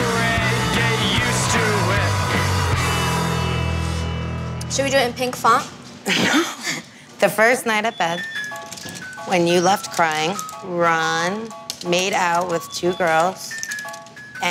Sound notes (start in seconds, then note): 6.0 laughs